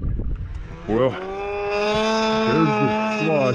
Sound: engine whirring

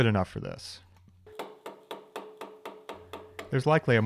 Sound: mallet tapping

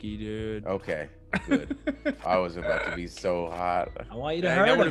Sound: laugh

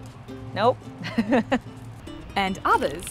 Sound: laughing

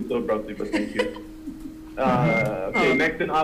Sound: laughing

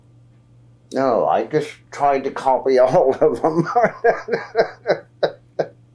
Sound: laughs

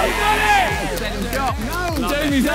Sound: players cheer

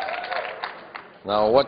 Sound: applause

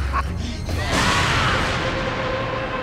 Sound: laughing; screaming

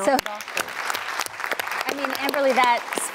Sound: audience clapping

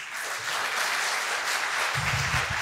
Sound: applause

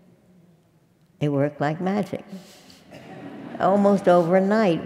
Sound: laugh

